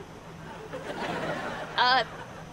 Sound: laughing

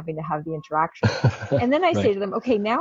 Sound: laughing

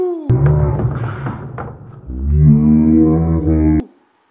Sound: slow motion audio

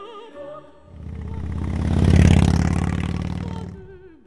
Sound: motorbike

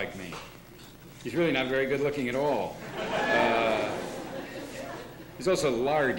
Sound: laughter

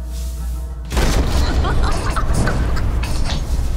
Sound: malevolent laughter; gagging

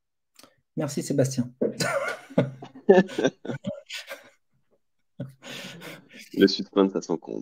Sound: laughs

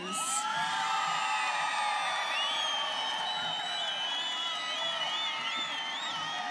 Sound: students cheering and applauding

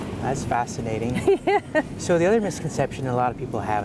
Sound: laughs

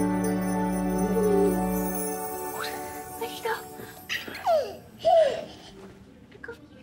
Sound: baby cooing happily

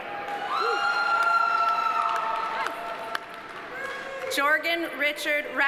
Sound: audience cheering; audience applauding

